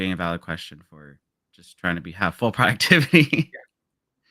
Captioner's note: laughs